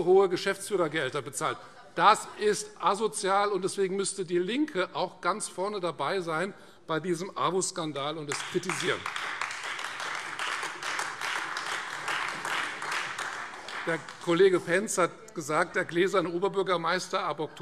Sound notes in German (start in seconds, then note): 8.3 Beifall Freie Demokraten und AfD